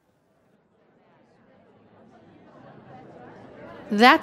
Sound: audience chattering

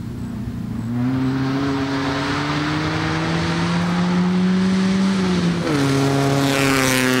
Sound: car Engine

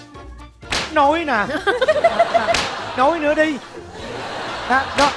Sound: laughing

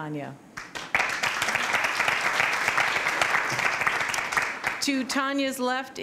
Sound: applause

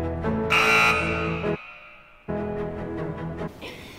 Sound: buzzer

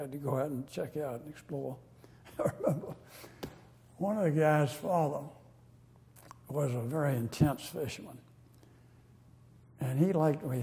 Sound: laughter

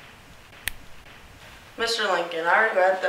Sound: snap

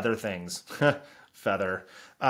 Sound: chuckles

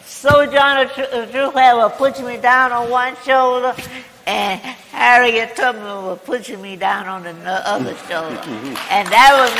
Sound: laughter

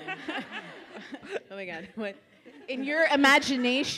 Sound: audience laughs

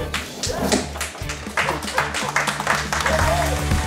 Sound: cheers and applause

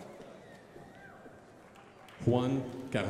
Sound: crowd applauding

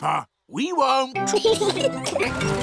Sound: both giggling

